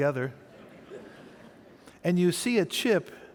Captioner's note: audience laughing